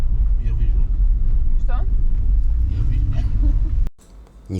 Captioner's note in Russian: смех